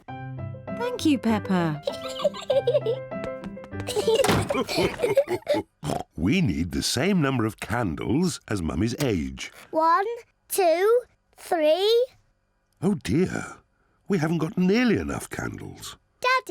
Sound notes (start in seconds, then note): 0.0 lively music plays; 2.2 giggles; 3.8 all laugh; 5.8 oinks